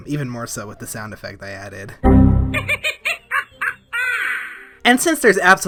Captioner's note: Windows XP critical error sound, BonziBuddy laughing